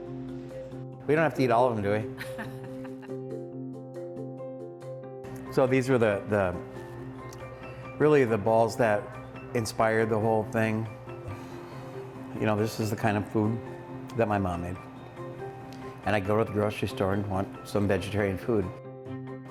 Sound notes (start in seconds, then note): 2.1 woman laughs